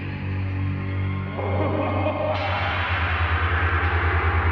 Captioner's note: creepy laughter